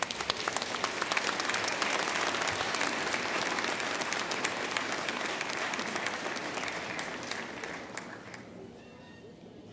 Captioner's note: applause